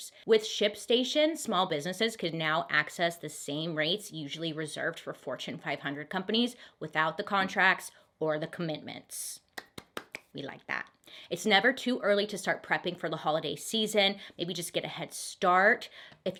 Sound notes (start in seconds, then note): 9.6 claps